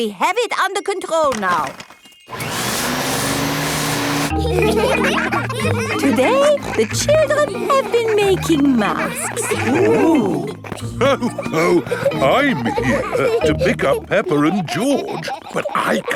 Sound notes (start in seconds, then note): 2.3 whirring; 5.0 all laughing; 11.3 laughs